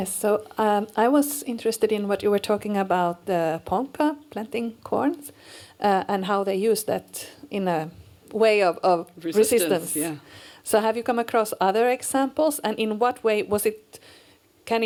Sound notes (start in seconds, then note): none